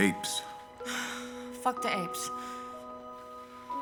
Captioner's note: sighs; uplifting music